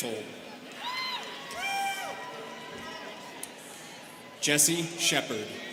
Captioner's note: students cheering